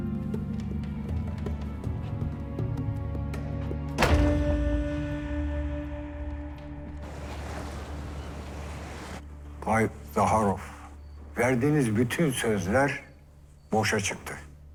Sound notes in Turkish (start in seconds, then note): 3.9 Kapı kapanma sesi